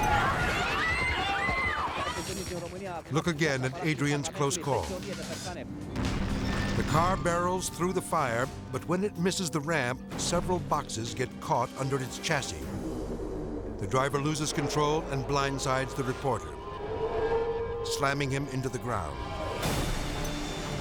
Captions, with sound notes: (people screaming) Look again at Adrian's close call. (car crashing) The car barrels through the fire, but when it misses the ramp, several boxes get caught under its chassis. The driver loses control and blindside the reporter, slamming him into the ground.